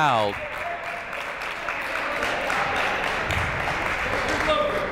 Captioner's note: crowd clapping